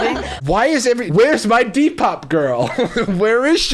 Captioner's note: ladies laughing; laughing